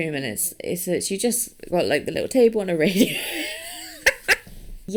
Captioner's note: wheezes